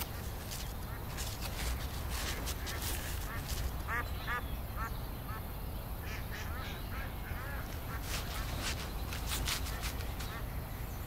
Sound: ducks quacking

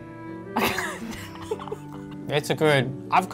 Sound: laughing

